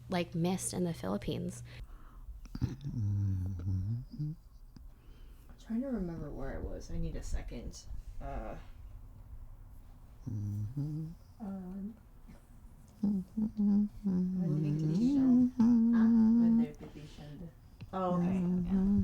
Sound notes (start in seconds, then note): 2.0 voices on a recording being played; 8.5 humming